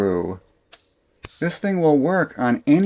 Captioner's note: click